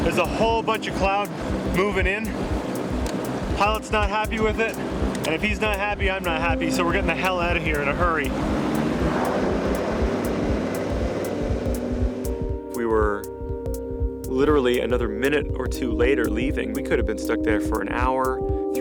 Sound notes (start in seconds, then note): none